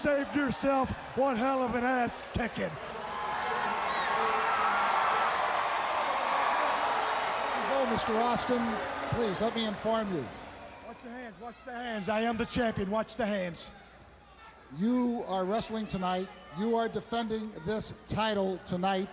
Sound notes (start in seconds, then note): 3.4 crowd chatter; 5.9 crowd cheering